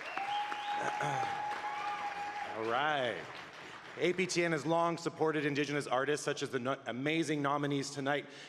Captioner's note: applause